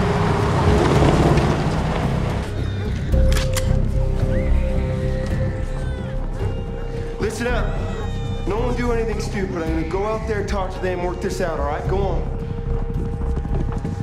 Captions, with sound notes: (rifle cocking) (baby crying) - Listen up. No one do anything stupid. I'm gonna go out there, talk to them, work this out alright? Go on.